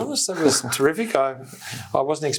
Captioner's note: laughing